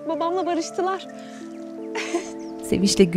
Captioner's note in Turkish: Gülme sesi